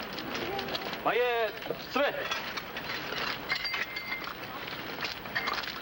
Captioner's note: speaking foreign language